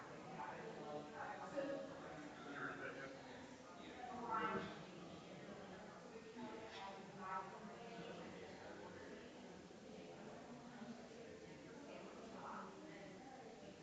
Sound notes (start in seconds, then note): 3.4 people chattering distantly continues